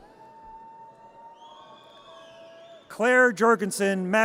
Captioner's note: audience cheers